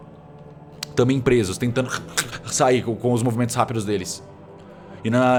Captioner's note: aargh